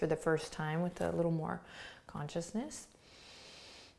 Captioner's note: inhales